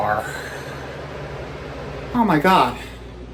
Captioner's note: gasps